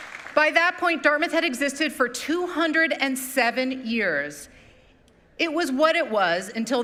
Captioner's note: applause